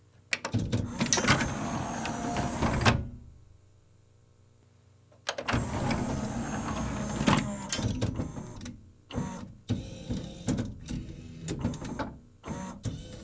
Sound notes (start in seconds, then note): 1.0 a long and pronounced whirr as tray opens; 5.5 same whirr as before; 9.6 a new, higher pitched whirr with two pronounced clicks as it happens